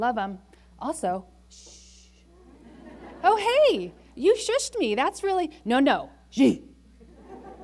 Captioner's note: laughter